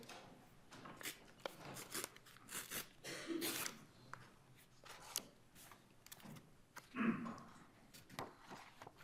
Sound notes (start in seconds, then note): 1.1 papers rustling; 1.1 throats clearing